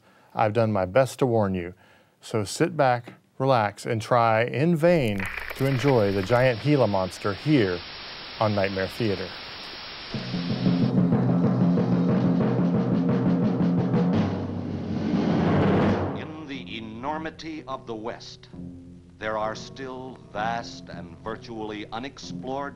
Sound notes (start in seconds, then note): 8.9 static hissing; 10.6 dramatic orchestral music